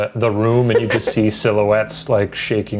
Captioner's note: laughs